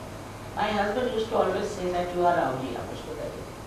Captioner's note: hindi